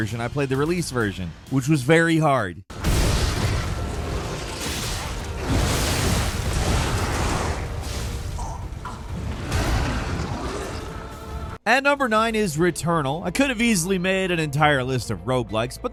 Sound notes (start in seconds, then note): 2.8 blows thudding; 3.0 dramatic choral music; 8.3 demon growls